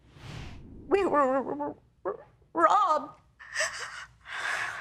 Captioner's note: voice breaking